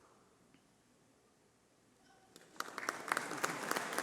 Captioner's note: applause